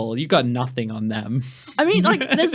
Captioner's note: laughing